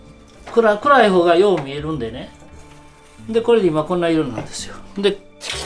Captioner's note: speaking foreign language